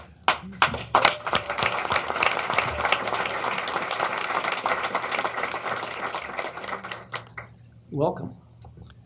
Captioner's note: applause